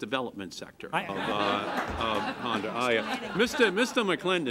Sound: laughter

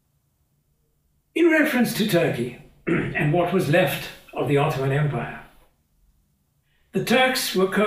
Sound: cough

